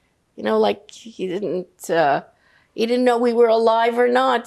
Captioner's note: none